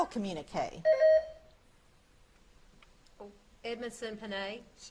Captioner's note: buzzer beeps